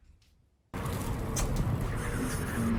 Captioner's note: wind